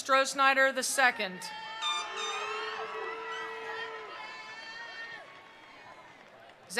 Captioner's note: attendees cheering; attendees applauding